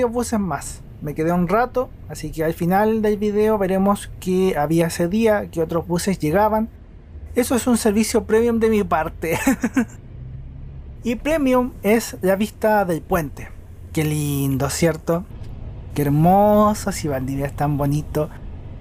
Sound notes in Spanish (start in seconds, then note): 9.3 risas